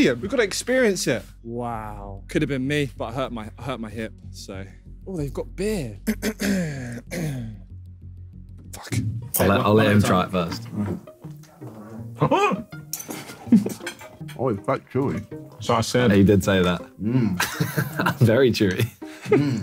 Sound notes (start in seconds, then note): 6.0 coughing; 11.4 groaning